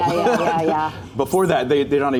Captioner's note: laughter